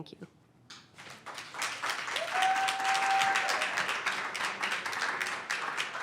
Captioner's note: audience cheers and applause